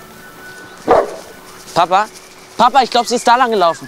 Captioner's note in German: Hund bellt